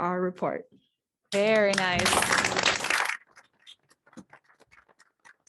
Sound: audience clapping

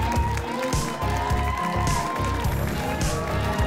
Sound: applause and cheering

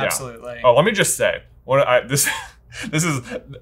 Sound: chuckles

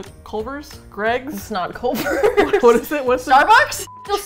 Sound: laughs

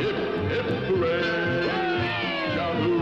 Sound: all cheering

